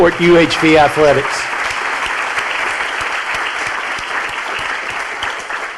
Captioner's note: audience applauding